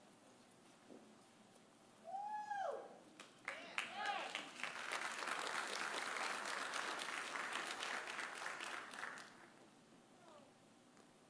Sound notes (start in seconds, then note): 3.4 audience applauding; 3.5 audience cheering